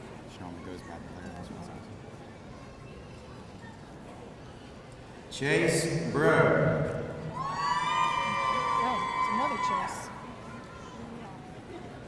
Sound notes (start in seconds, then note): 7.3 audience cheering